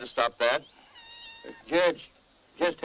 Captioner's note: cat meowing